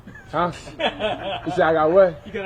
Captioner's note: laugh